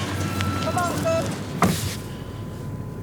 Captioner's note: door shuts